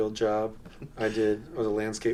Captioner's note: chuckles